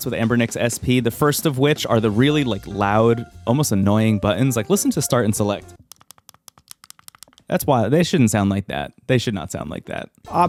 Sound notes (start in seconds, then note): 5.9 buttons clicking